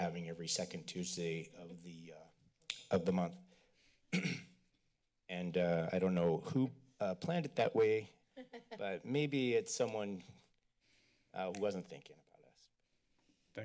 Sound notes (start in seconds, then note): 4.1 clears throat; 8.4 laughter